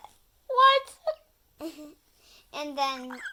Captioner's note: laughs